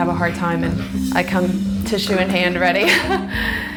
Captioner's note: laughs